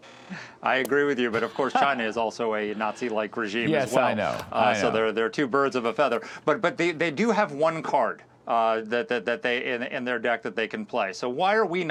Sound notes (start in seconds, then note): 1.2 laughter